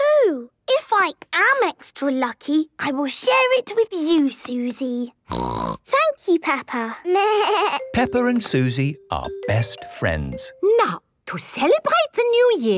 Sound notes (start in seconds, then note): 5.3 snorting; 6.7 bleating